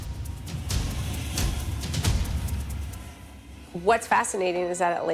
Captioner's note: fire whooshes